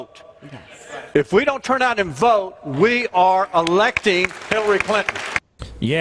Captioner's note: applause